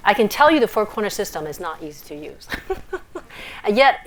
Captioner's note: laughs